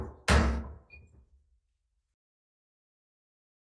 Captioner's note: gavel bangs